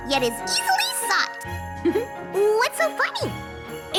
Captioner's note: giggles